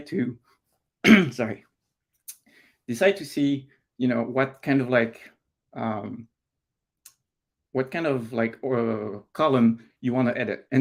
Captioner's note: clears throat